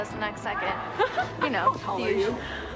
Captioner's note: laughs